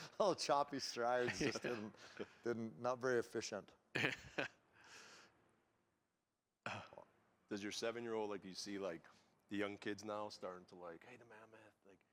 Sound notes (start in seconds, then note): 4.0 laughs